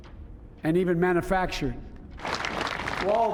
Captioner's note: cheering and applause